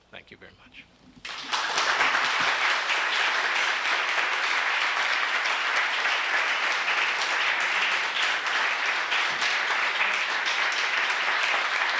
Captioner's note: applause